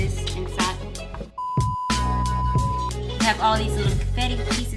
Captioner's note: beeping